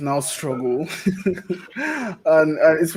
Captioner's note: laughs